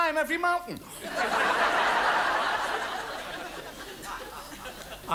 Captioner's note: audience laughs